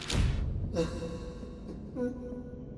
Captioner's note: Ian cries